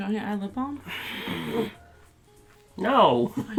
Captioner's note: growls